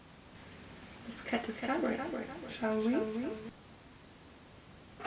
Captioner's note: strange voice